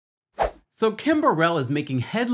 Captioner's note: air whooshes